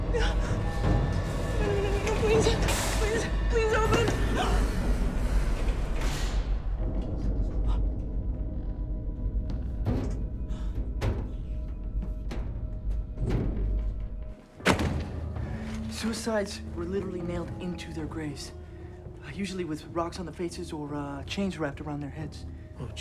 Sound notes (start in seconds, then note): 4.9 gasps; 5.6 elevator door whirring; 7.8 eerie music; 9.2 elevator top thudding; 14.6 book thuds